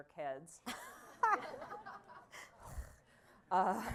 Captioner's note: laughter